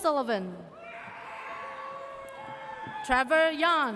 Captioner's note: audience cheers